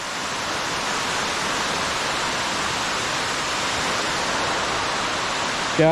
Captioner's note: water rushing